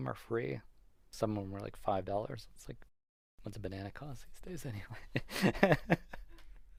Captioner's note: laughs